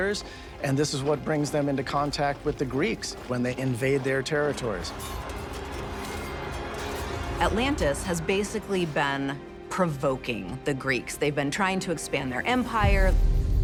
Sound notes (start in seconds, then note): 4.9 weapons clashing